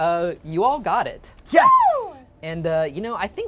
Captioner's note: group cheers